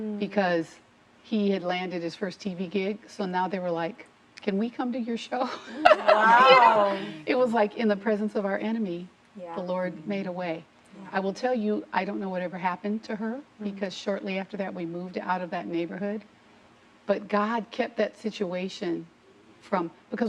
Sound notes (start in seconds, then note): 5.6 laughing